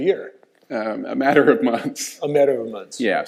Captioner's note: laughing